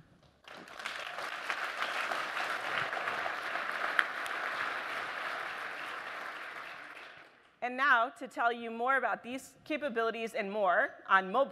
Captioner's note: applause